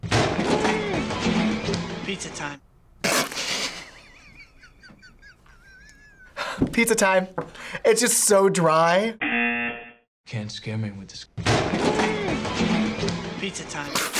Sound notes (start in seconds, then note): 0.2 yells; 3.5 laughs; 9.2 buzzer rings